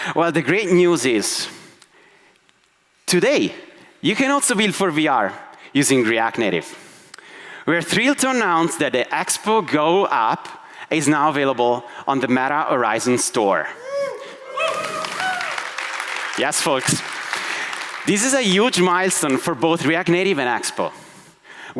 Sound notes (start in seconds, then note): 14.2 audience applauds